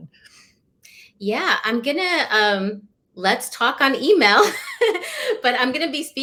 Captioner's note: laughter